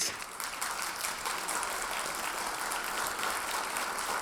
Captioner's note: audience applauds